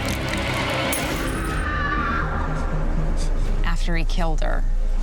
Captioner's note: screaming